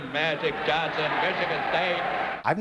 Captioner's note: cheering